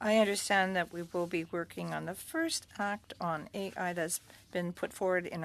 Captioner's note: speaking French